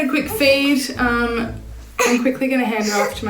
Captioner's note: baby cooing